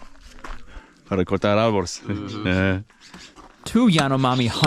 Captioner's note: speaking in foreign language